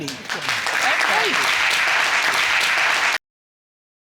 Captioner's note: audience applauds